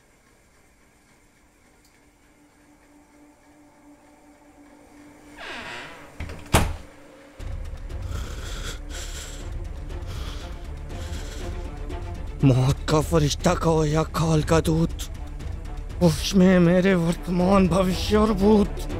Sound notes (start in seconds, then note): 5.3 door closes; 7.4 aggressive breathing